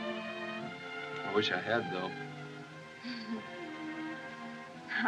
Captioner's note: chuckles